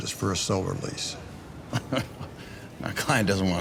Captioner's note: laughter